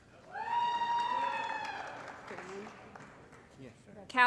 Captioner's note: applause & Cheering